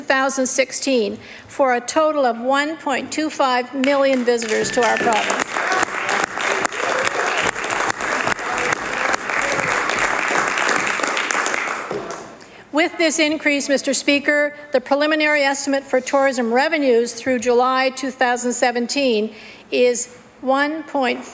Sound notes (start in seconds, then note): 13.9 applause